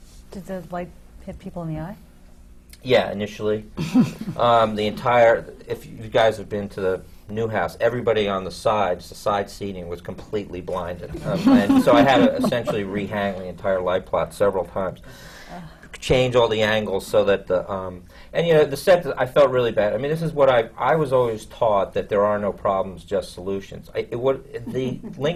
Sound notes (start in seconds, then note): 3.8 laughs; 11.1 laughter